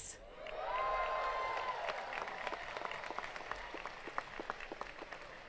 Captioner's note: attendees cheering and clapping